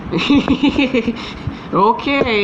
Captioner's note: chuckling